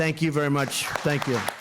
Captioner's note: applause